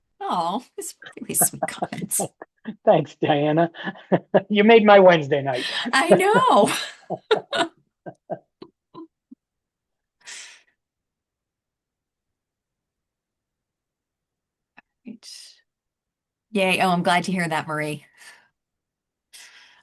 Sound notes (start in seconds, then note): 3.9 laughter